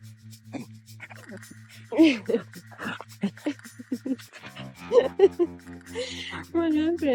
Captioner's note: laughs